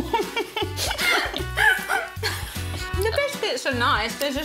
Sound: both laughing

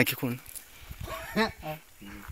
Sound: light laughter

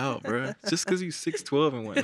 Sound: laughs

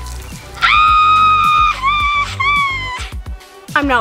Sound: screams

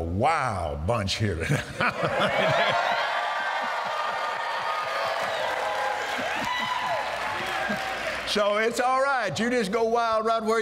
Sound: cheers & Applause

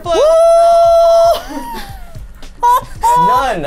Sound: screams

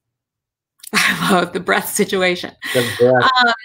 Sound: laughs

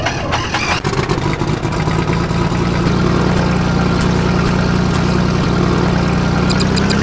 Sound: airboat start; airboat idle; airboat accelration

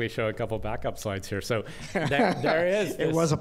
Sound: laughter

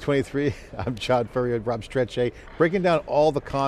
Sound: laughs

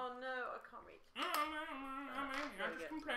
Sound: mimicking noise

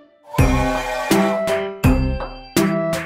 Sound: train sounds

